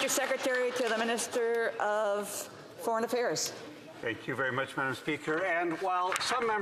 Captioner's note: applause